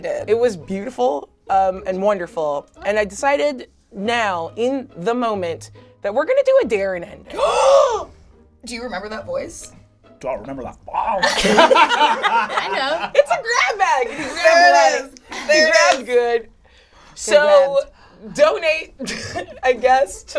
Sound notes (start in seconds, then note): 7.5 gasps; 11.2 all laugh